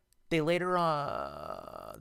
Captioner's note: static